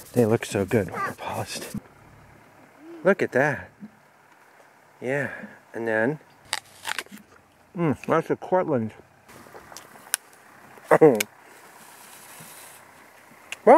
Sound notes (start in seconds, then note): 6.5 biting sound